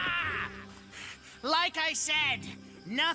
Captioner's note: Scott Screaming; panting